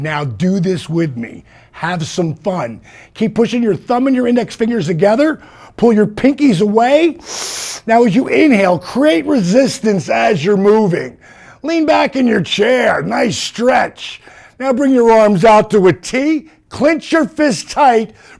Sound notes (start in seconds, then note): 7.2 inhale sound